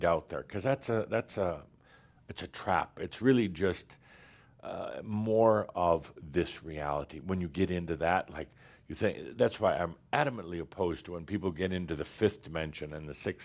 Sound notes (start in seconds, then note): none